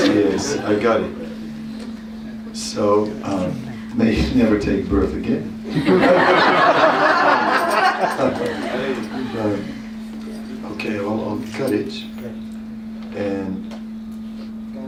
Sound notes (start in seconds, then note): 8.9 laughter